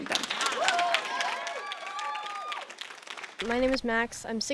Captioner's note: attendees applauding; attendees cheering